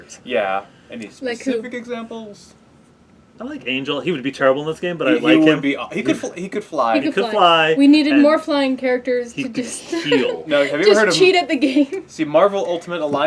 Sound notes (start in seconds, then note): 9.4 laugh